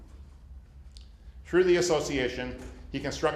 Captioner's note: none